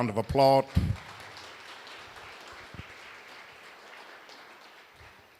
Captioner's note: applause